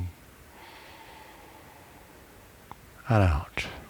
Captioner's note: breathing